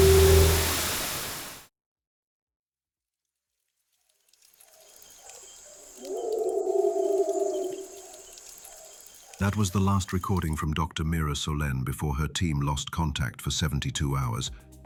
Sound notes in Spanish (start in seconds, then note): 0.0 Estática áspera; 6.0 Sonidos de jungla